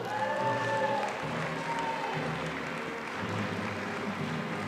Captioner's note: audience applauding